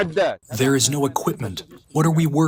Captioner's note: through translator